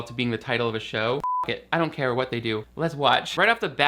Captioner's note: beep